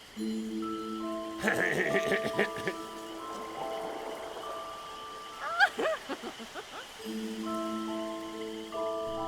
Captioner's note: mutual laughter